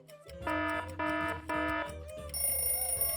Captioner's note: clock buzzes; clock rings